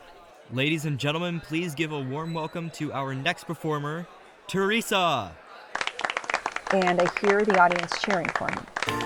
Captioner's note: applause